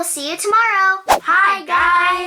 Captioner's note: air whooshing